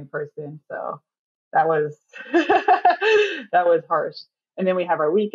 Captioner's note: laughs